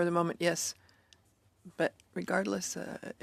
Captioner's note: speaking in French